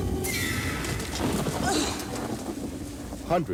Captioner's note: groans